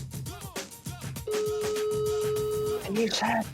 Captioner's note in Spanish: Tono de llamada